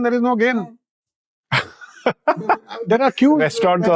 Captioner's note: laughing